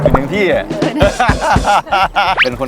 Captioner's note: laughing